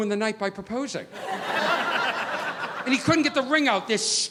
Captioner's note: audience laughing